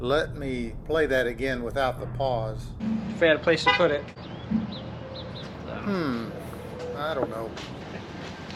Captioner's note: honk